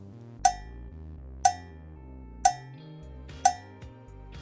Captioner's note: timer ticking